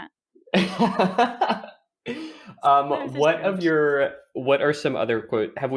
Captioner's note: laughs